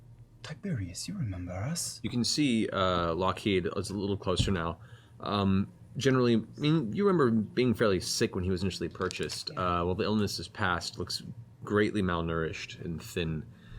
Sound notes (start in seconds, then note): none